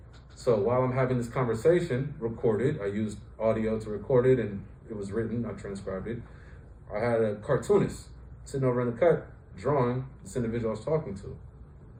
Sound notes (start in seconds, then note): none